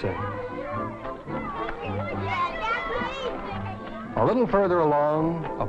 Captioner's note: kids chattering